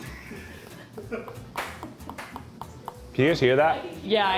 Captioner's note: teeth chattering